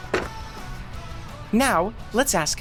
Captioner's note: clanking